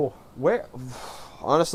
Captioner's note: exhales